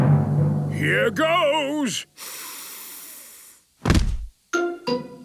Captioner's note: dramatic drumming music; sniffs